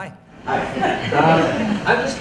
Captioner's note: audience laughs